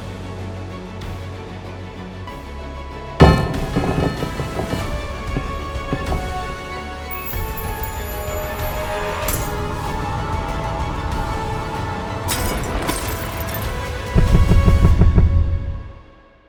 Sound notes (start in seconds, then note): 2.6 suspenseful music; 3.7 dice rolling; 6.2 dice twinkling; 9.4 dice cracking